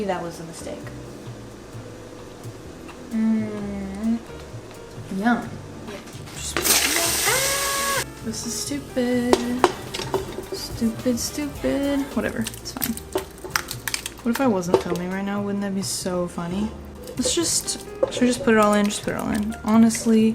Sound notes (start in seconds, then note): 6.3 pasta sizzles; 7.0 screeches